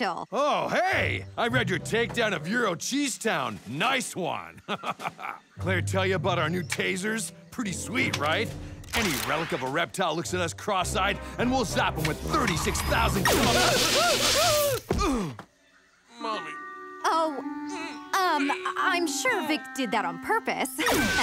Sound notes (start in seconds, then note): 13.5 screaming